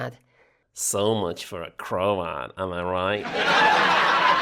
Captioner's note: sarcastically; sitcom laughter